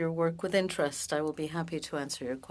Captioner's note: speaking French